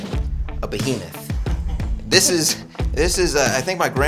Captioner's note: chuckling